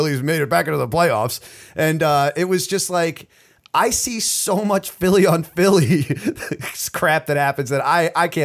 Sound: chuckle

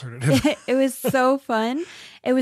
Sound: laughs

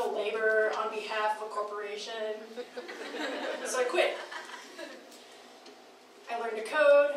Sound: crowd laughing

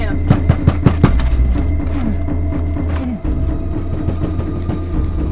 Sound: knocks on door

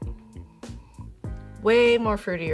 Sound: sniffing

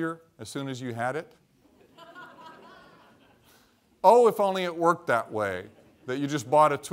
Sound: laughter

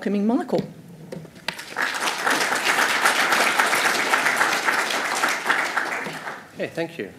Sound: applause

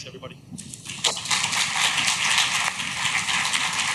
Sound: clapping

